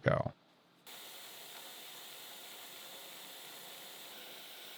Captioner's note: machine whirring